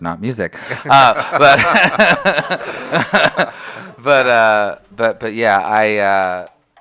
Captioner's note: laughter